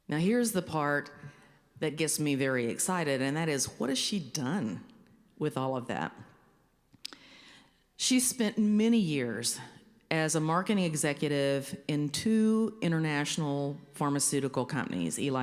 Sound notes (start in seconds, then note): none